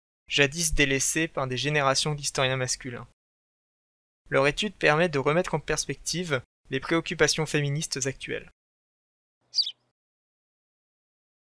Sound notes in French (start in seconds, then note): 9.5 chant d’oiseau